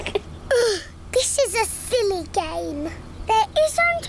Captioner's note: laughs; groans